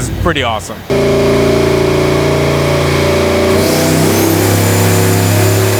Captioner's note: engine revving loudly